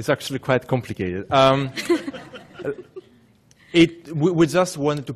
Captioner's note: laughing